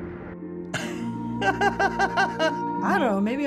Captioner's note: laughs